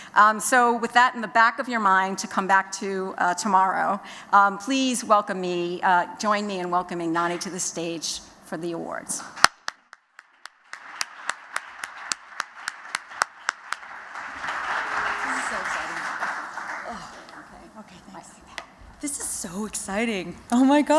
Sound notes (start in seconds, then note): 10.0 �applause�